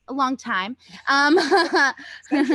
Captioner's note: chuckles